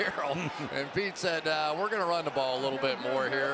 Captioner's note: chuckles